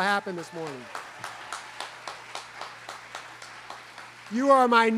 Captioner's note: students clapping